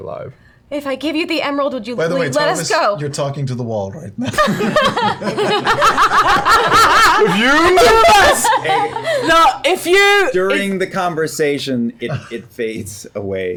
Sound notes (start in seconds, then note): 4.2 laughter